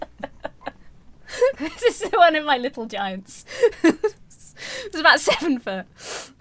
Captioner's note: laughs